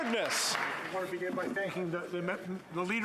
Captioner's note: applause